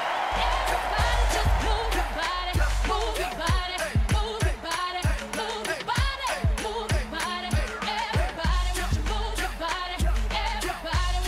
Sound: applause; applause and music

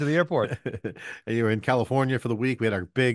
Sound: chuckling

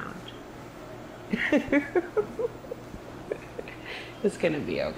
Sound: Mary chuckling

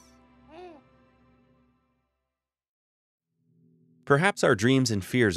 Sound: baby utters lallation

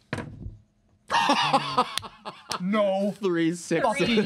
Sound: laughing

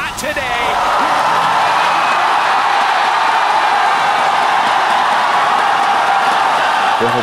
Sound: crowd roaring

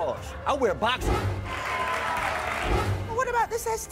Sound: crowd cheering

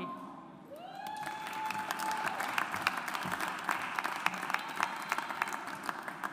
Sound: audience applauds

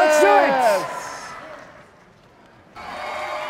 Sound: audience cheering

